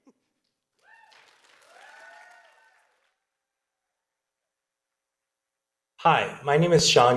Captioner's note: audience cheering and applauding